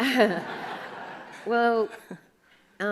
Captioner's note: audience laughs